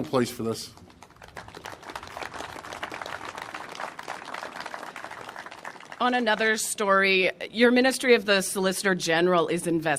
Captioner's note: applause